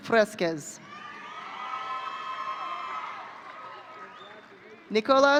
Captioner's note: audience cheering